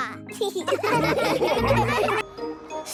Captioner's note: laughing